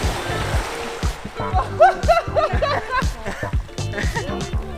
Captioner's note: laughter